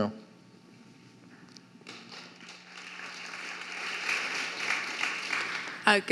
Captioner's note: some audience members applauding